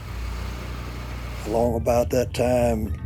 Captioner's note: engine revving